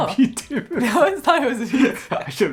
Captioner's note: both laughing